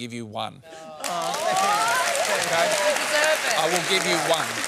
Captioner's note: applause